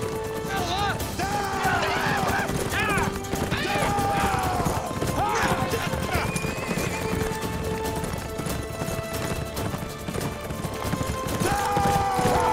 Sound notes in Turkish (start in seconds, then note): 0.2 Hep bir ağızdan; 3.5 At nalı sesleri; 6.0 At kişneme sesi